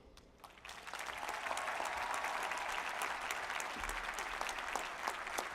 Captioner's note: applause